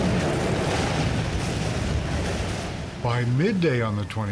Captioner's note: explosions